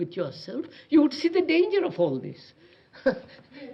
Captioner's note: laughs